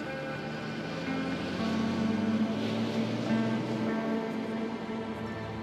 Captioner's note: sound of bus engine